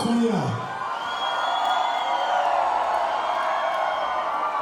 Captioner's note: crowd cheers